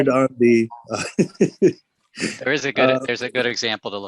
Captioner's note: laughs